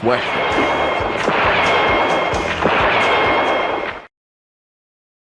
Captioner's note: gunshot blasting